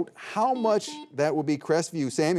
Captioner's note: buzzer beeping